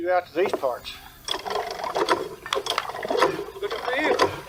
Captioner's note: pump handle clanking